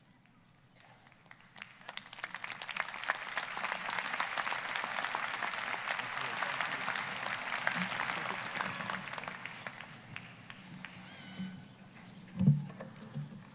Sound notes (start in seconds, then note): 0.7 applause